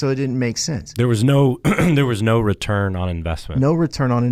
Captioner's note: clears throat